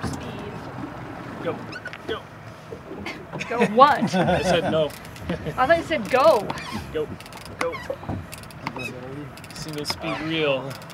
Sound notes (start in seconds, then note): 5.1 chuckling; 9.2 reel cranking